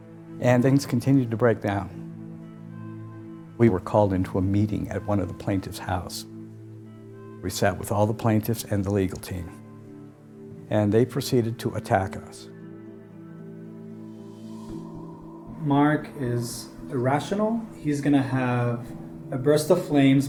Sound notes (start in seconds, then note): none